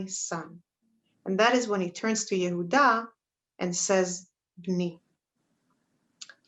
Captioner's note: Hebrew